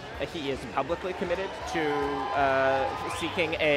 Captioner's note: cheering